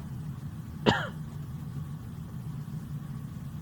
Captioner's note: coughs